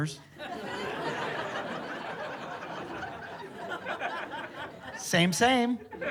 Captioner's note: laughter